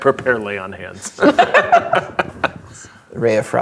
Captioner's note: players laughing